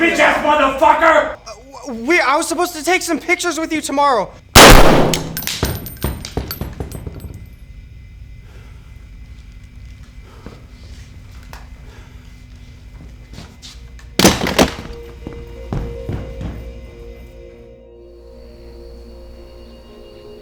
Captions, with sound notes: Answer me, bitch-ass motherfucker! Wait, I was supposed to take some pictures with you tomorrow. [gun blasting] [bullets clinking] [soft somber music] [crickets chirping]